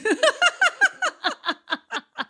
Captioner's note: laughing